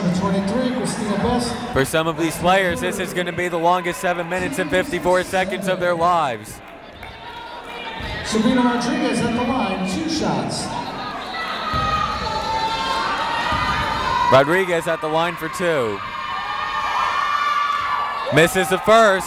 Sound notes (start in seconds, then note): 13.2 yelling